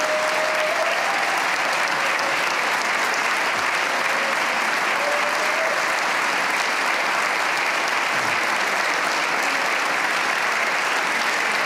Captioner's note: cheers and applause